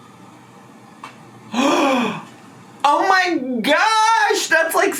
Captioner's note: gasps